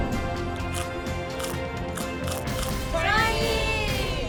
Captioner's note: munching